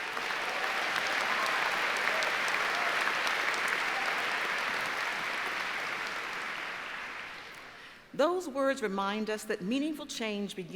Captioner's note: applause